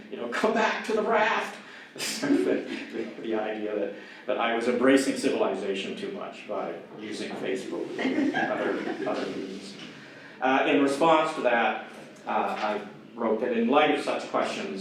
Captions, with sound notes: Some back to the raft! the idea that I was embracing civilization too much by using facebook [audience laughter] In response to that I wrote that in light of such questions